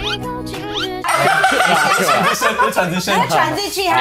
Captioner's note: laughs